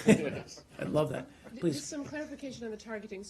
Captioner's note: laughter